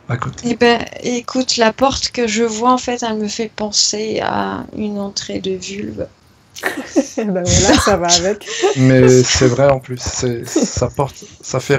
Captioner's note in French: rires